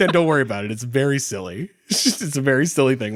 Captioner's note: laughing